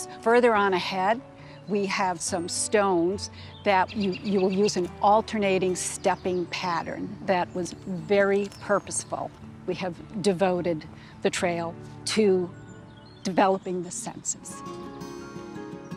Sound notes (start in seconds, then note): none